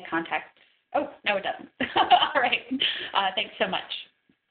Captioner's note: laughs